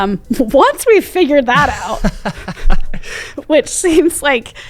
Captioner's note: both laughing